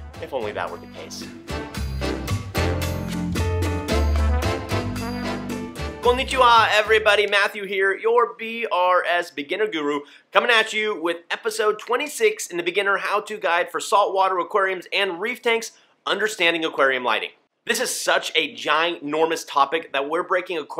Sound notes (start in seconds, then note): 2.3 upbeat samba music; 6.0 speaks foreign language